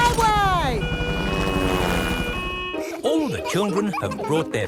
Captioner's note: siren wailing